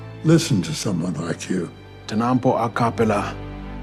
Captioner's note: speaking Indigenous American language